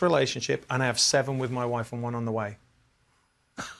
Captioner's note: laughs